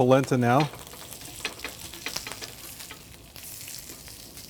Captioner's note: sizzling sounds